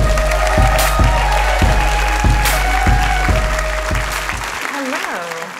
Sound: applause

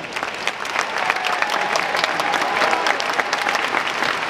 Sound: audience clapping

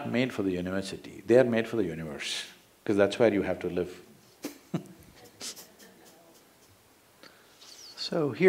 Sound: laughs

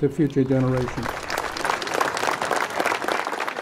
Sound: applauding

